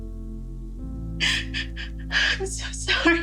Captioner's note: Ally crying